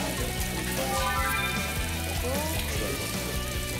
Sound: pouring sugar

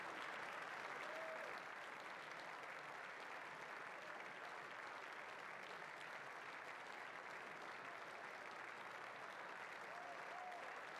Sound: applause

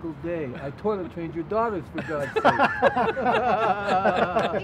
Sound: laughter

